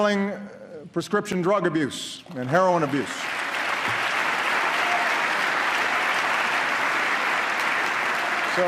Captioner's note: applause